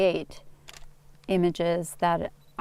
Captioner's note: camera shutter